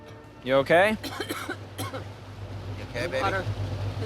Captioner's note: coughing